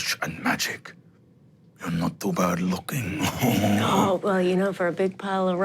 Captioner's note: laughing grunts